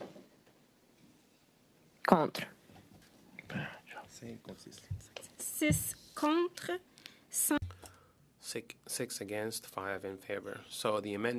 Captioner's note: speaking French